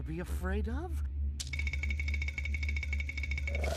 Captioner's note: teeth chattering